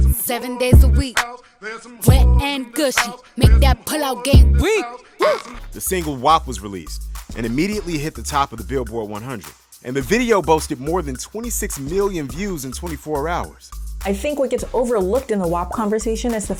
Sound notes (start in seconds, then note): 5.4 voiceover